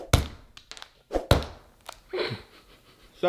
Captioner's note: air swooshing; fist pounding; laughs